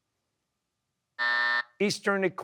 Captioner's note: buzzer